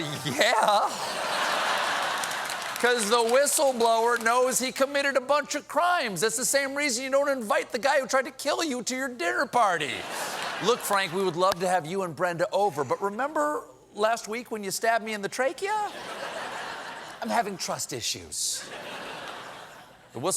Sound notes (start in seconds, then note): 6.8 applause; 10.0 laughter